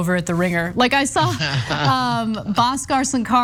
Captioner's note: laugh